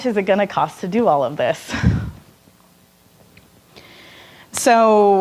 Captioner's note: laughing